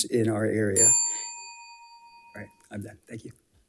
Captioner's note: bell dings